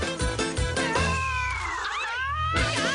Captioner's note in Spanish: Grita